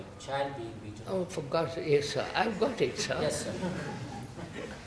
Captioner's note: laughter